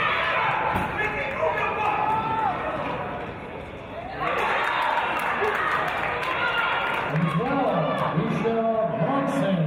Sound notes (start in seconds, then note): 3.8 cheers and applause